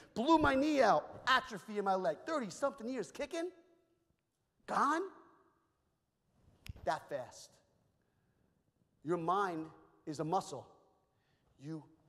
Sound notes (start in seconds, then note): 6.6 snaps fingers